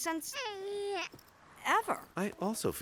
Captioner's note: baby garbles